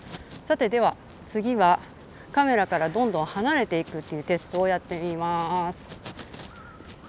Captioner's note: the T-shirt is rubbing and there is noise